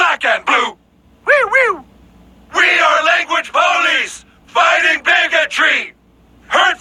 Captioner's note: woo woo